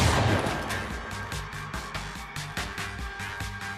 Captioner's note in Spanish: Disparo